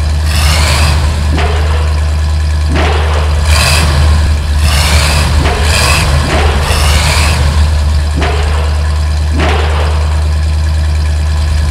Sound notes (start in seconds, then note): 0.2 engine revs; 2.7 slam; 3.5 engine revs; 5.2 slam; 5.8 engine revs; 6.3 slam; 6.8 engine revs; 8.2 slam